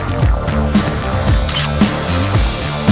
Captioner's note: photo Click